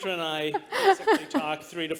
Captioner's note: laughter